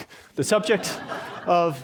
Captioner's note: laughter